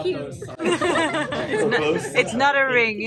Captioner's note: laughing